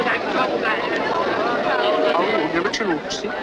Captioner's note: speaks Chinese